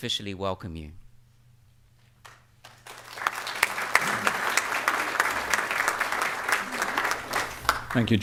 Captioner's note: applause